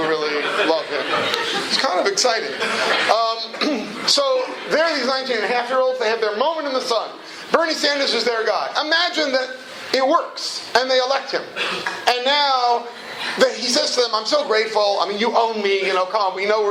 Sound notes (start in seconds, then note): 0.4 laughter